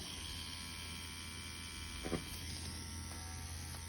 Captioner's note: machine whirring